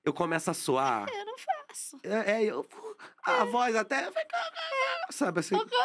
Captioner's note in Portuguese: voz falha